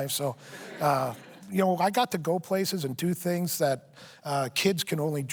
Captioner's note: laughter